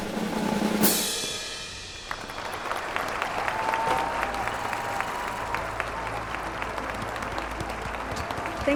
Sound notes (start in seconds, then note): 1.9 audience applauding, cheering; 6.6 soft dramatic music